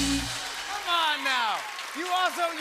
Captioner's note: cheers and applause